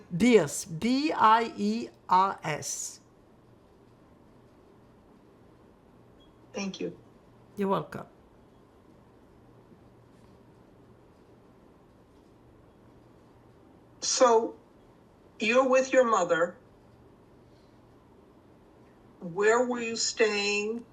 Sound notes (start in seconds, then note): 8.2 pauses 6 seconds